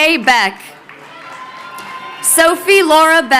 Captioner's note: crowd cheering